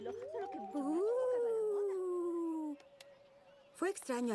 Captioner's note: ghostly sound